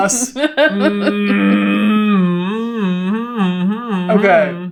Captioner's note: laughing